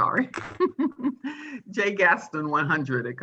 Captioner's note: chuckling